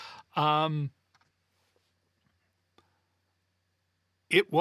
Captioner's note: silence